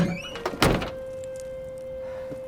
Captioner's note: trunk shuts